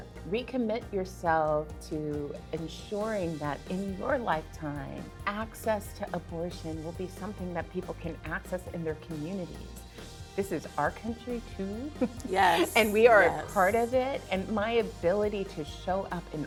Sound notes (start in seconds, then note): 12.0 chuckles